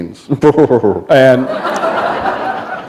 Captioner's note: laughter